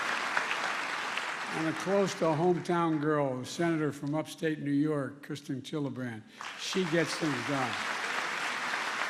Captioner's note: applause